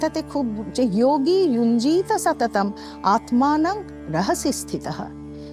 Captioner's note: chanting